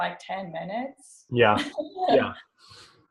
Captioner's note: laughs